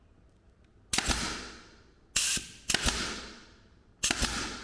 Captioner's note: gun nailing